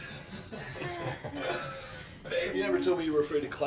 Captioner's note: chuckling